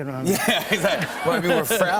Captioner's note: laughter